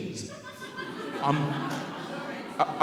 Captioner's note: audience laughing